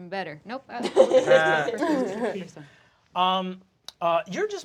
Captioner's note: laughter